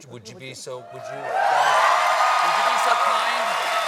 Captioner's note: cheers and applause